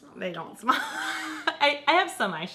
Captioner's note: laughs